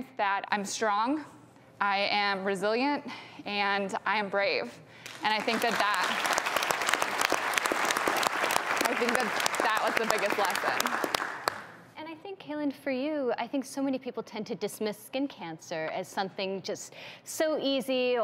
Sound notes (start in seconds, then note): 5.2 audience applauds